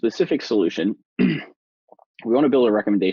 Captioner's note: clears throat